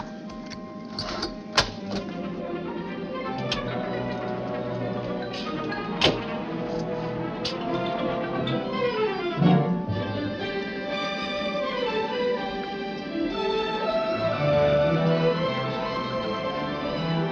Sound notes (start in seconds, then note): 0.2 gentle music; 5.9 door banging